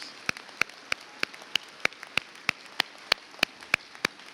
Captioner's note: audience applauds